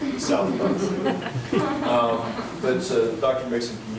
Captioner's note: members laughs